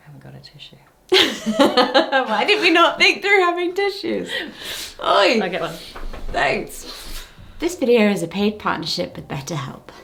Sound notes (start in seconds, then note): 1.2 laughs